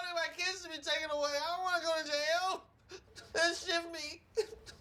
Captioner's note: crying